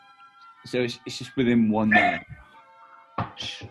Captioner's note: dog barks